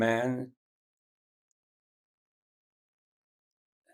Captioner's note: pauses 8 seconds